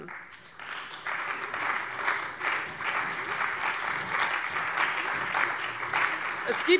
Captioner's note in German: Allgemeiner Beifall